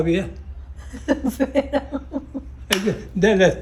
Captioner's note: laughs